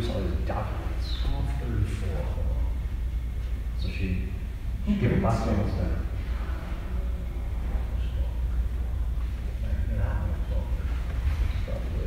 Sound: whispers

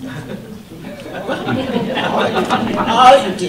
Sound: audience laughter

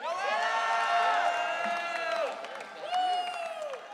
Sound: audience cheering

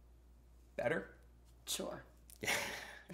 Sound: laughter

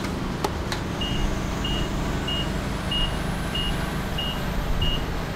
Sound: forklift beeping

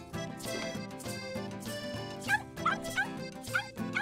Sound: barking

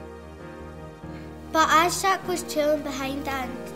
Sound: girl reading book aloud

